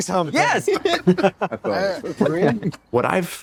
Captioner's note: all laughing